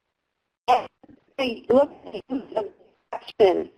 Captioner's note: distorted audio